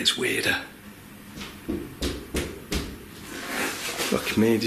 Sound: loud banging

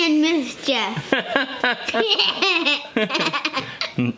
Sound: laughing

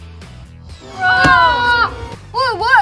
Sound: screaming

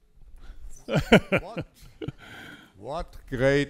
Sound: man laughs

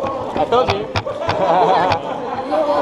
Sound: laughing

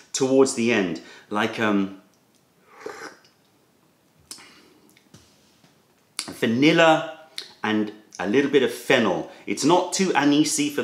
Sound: sips tea

